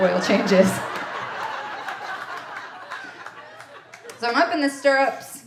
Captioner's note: audience laughing